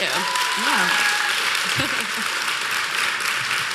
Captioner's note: applause